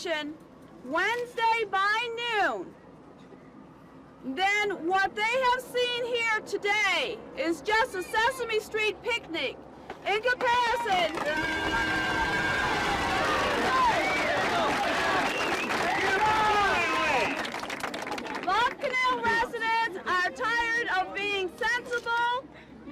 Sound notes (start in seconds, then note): 10.4 crowd cheering and applauding